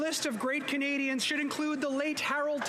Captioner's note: some Applause